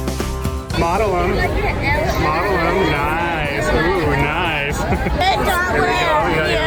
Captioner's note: chuckles